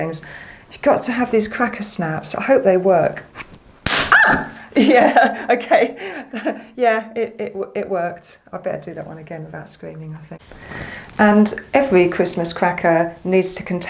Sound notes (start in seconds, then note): 3.6 bang!; 4.0 scream